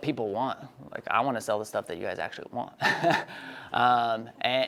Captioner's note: laughs